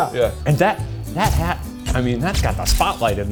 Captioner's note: cameras clicking